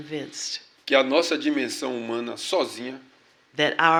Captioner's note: speaking portuguese